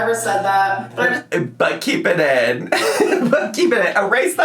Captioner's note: laughs